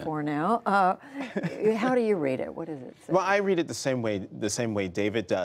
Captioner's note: laughter